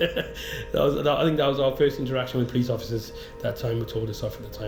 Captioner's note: laughing